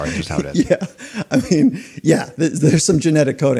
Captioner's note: laughing